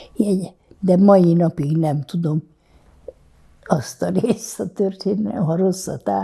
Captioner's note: laughing